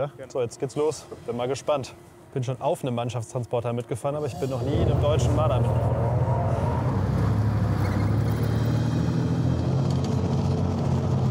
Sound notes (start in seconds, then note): 7.4 squeaking, engine noises